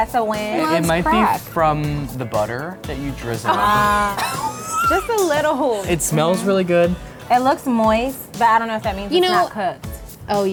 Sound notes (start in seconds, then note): 4.1 laughter